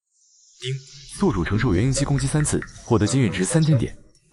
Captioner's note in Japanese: 効果音